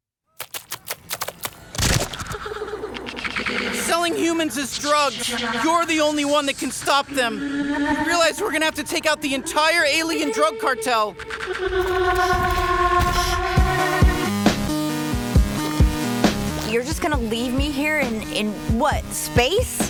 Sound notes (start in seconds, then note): 2.7 squishing sounds; 12.9 distorted voices speaking; 15.5 trippy music playing